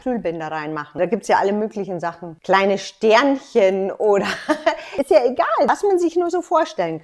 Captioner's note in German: lacht